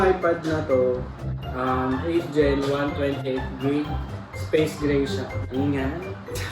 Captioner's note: neighborhood noise